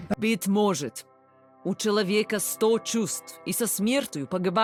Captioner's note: Zarya speaking in Russian